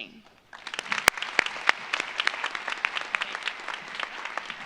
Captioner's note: audience applauds